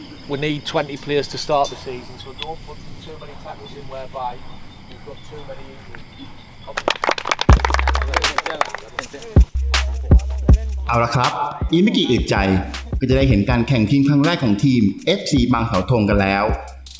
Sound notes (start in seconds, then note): 6.6 players clapping